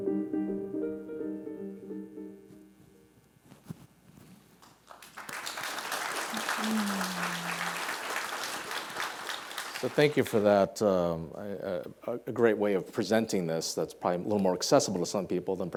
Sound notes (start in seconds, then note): 4.6 audience applauding